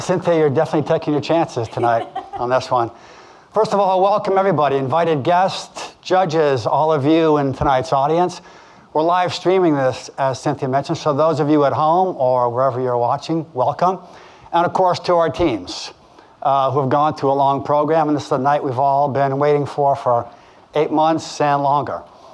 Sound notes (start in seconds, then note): 1.5 laughing